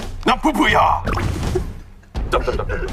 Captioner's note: the original writer can't stop laughing